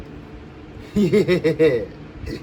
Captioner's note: giggles